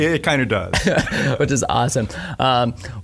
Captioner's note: laughing